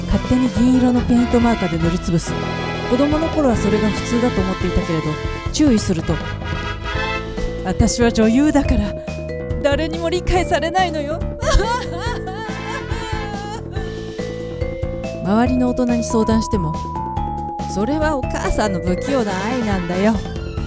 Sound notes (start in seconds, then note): 14.0 crying